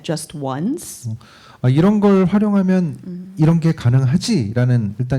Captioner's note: speaking korean